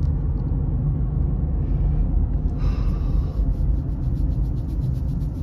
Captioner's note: takes a deep breath